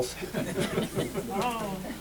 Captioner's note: laughter